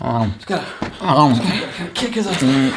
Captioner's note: groans